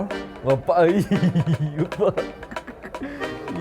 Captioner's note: laugh